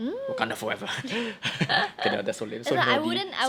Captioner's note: both laugh